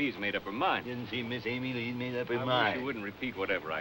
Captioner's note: mockingly